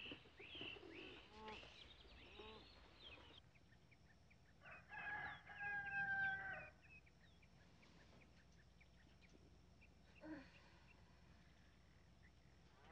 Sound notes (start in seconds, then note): 4.6 rooster crowing